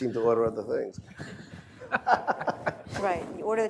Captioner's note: laughter